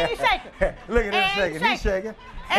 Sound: laughter

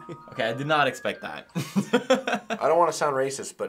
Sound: laughs

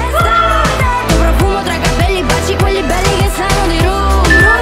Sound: exclaiming

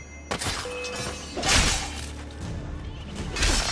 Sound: fighting sounds

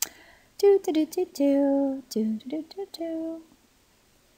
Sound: person humming

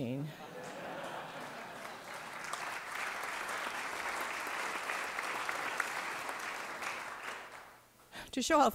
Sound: laughter; applause

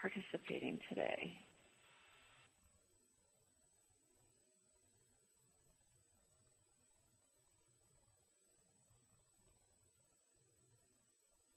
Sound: pause

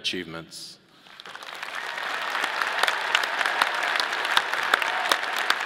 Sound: audience applauding

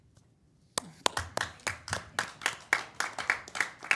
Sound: applause

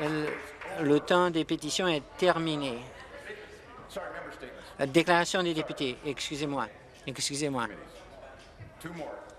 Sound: some Applause

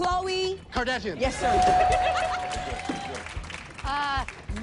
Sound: laughter

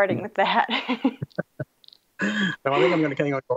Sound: laughs

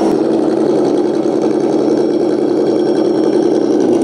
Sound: engine rumbling

